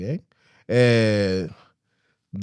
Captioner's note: speaking In Foreign Language